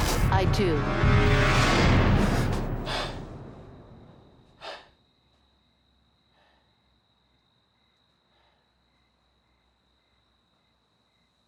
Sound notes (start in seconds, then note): 1.8 gasps